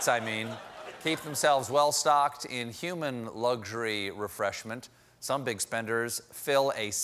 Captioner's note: laughter